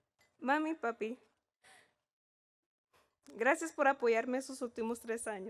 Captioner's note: speaking in Spanish